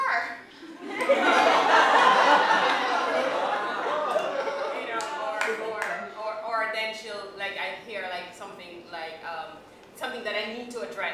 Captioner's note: laughter